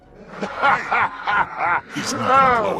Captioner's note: laugh